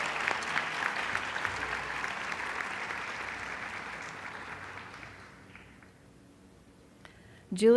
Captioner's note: applause